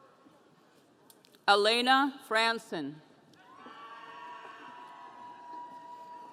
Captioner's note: audience cheering